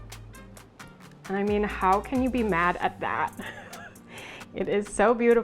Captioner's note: laughs